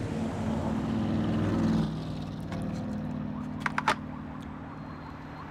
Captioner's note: traffic, police sirens chirping